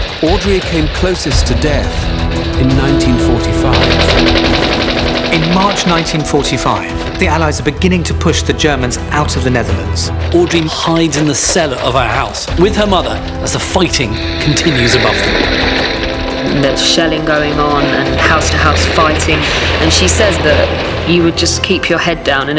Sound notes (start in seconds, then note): 4.0 gun roaring; 4.0 suspenseful music